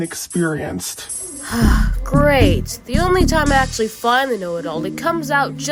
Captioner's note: sighs